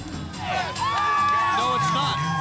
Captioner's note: crowd cheering